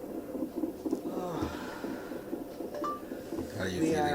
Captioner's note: groaning; phone beeping